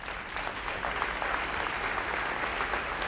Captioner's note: applause